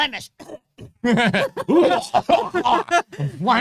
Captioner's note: both laughing